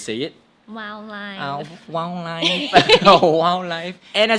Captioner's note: both giggle